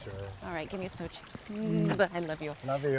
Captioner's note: mwah